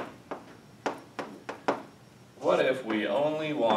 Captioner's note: chalk pen tapping